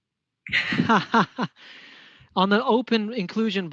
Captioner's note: laughs